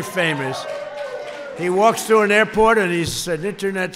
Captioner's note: applause